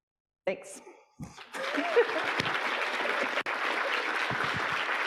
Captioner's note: audience applauding